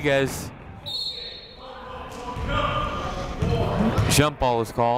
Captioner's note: whistle blows